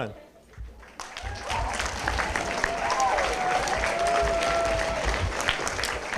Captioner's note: applause